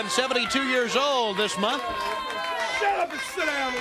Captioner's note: crowd chatter